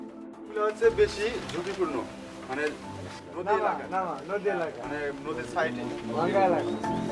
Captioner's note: foreign language